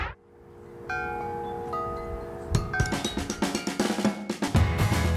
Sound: wind chimes ringing; upbeat music

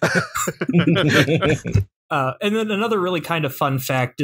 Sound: laughter

